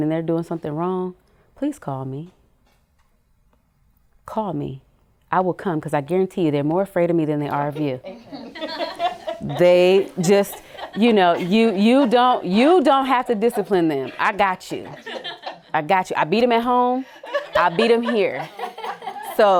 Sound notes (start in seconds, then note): 8.0 laughter